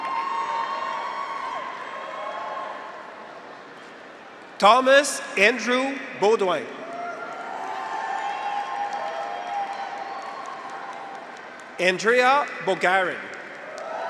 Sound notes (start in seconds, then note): 0.0 graduates cheer; 0.2 audience applauds; 6.8 graduates cheer; 7.0 audience applauds